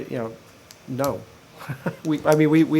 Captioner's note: laughter